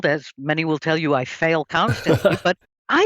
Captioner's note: laughs